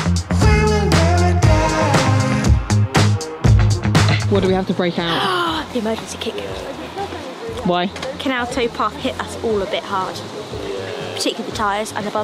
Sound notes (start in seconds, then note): 5.1 gasps